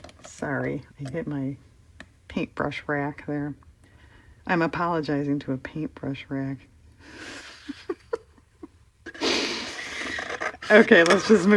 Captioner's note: laughs